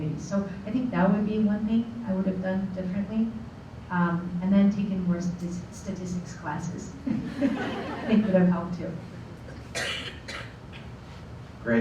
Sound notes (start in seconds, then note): 7.0 laughter